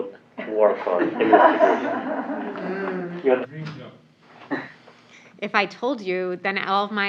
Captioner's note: laugh